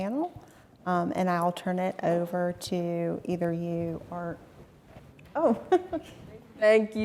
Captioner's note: laughs